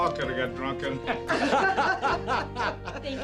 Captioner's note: laughter